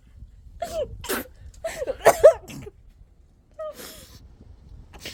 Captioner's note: choking, coughing